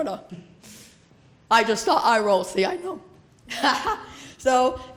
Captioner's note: laughs